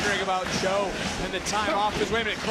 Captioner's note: audience cheering